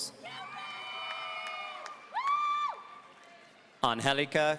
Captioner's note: audience cheering